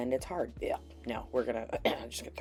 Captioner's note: gagging noise; clears throat